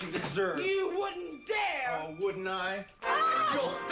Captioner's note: screams